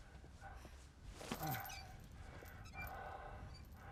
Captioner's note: heavy breathing